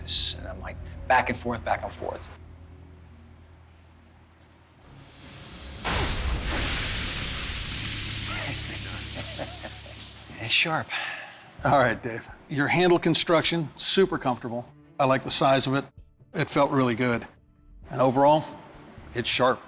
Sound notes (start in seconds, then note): 4.8 dramatic music; 8.2 chuckling